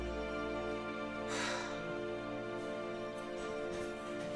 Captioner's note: sighing